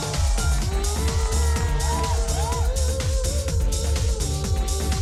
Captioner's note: cheering and applause